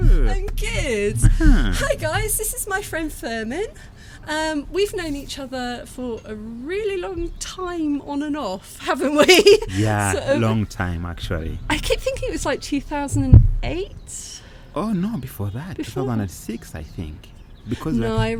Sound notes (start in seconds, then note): 8.7 laughing